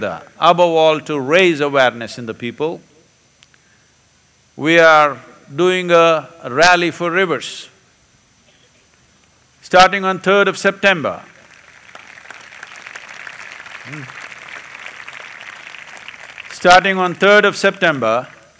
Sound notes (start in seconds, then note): 12.5 applause